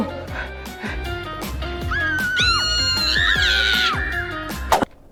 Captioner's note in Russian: девчачьи визги